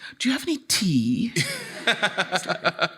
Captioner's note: audience laughing; laughing